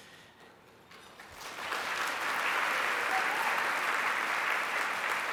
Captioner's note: applause